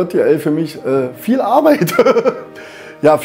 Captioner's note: laughs